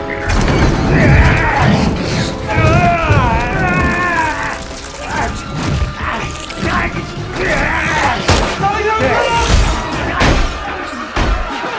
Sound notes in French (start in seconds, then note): 0.8 Hurlant